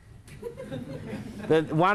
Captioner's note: crowd laughs